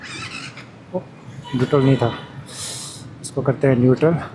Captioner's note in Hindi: नाक से की जाने वाली आवाज़